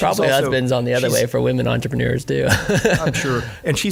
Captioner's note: laughing